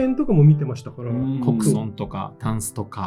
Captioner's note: laughs